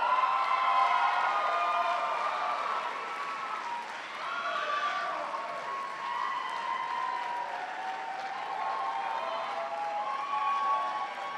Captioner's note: cheers and applause